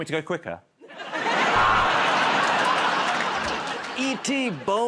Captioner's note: buzzer